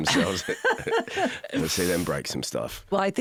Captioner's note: both laugh